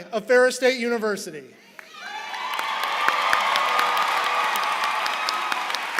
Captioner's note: applause